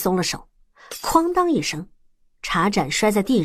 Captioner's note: crash!